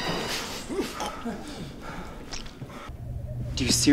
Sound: blow thuds; blood squirts

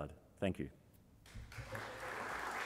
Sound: audience applause

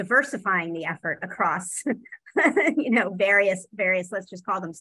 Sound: laughs

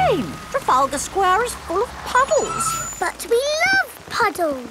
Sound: tires screeching

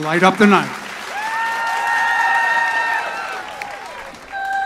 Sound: audience cheers

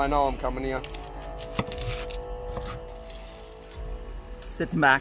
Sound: knife slicing through vegetables

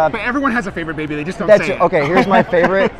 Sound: laughing

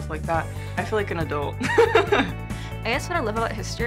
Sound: laughs

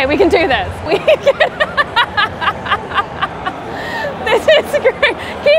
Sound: laughing

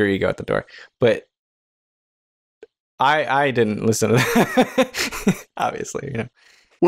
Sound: laughter

